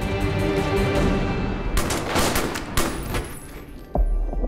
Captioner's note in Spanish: Disparos